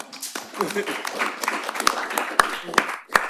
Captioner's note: applause